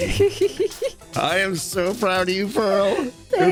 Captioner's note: excited laughter